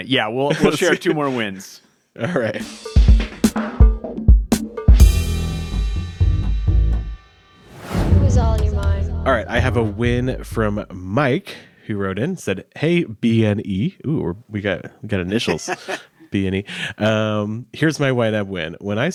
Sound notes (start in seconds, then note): 3.5 graphic whooshing; 3.5 upbeat music